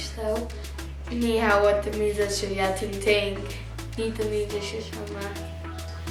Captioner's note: speaks foreign language